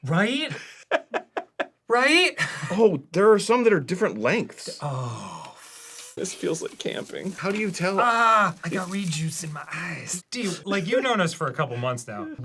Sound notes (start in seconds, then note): 0.4 arin laughs